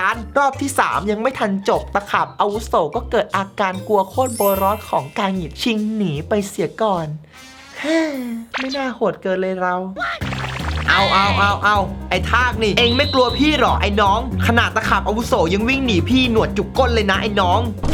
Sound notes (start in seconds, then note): 7.5 sighs